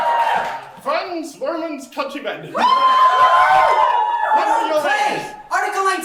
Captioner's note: audience cheering